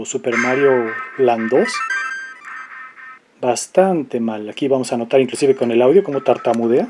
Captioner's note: laughs